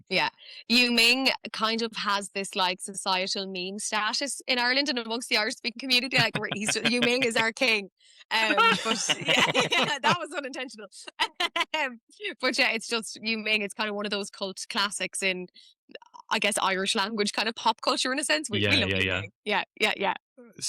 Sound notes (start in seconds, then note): 8.4 laughter; 11.4 laughs